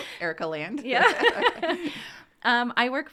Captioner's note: laughter